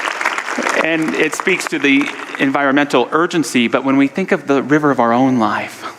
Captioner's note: audience applause